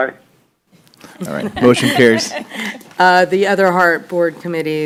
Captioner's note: laughter